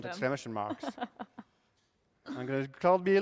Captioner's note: laughter